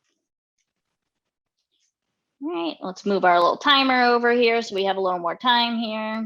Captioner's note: none